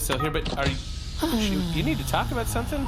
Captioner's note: sighs